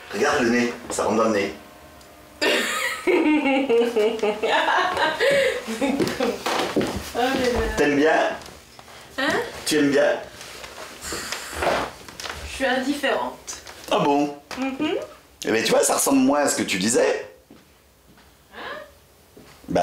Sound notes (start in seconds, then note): 2.4 laughs